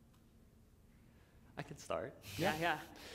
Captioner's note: chuckle